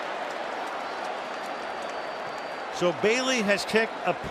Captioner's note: whistle blows